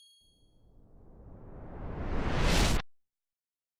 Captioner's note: high-pitched chime; whooshing